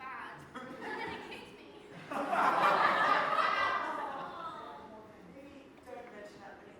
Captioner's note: audience laugh and awww